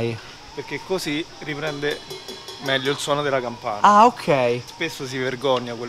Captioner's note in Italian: ding ding ding